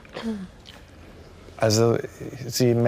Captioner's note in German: Räuspern